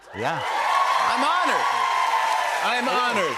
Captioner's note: cheers and applause